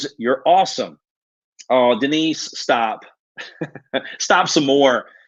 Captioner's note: laughs